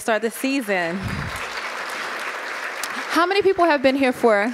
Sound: audience clapping

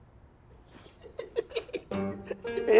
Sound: laughter

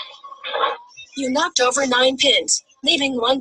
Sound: voiceover

